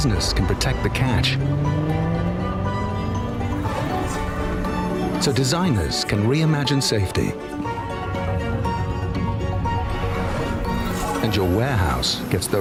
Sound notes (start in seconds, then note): 4.5 sound of engines revving